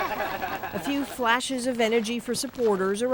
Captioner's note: laughter